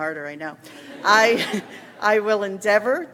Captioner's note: audience laughs